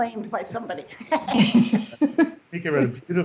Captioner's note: laughter